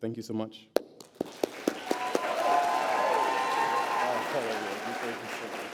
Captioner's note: applause